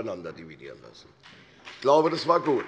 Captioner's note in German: Beifall bei der CDU,der SPD und dem BÜNDNIS 90/DIE GRÜNEN